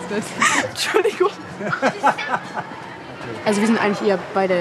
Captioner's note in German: Lachen, auch hinter der Kamera